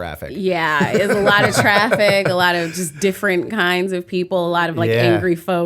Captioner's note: laughter